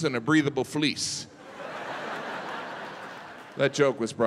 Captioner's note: audience laughing